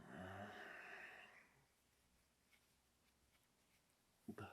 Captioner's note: Jacob groans